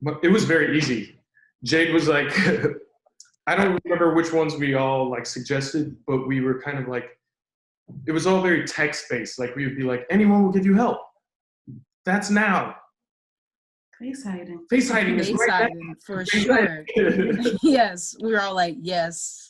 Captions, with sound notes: it was very easy. Jade was like (laughs) I don't remember which ones we all like suggested but we were kind of like it was all very text-based, like we would be like anyone will give you help that's now face hiding face hiding, for sure (laughs) Yes, we were all like yes.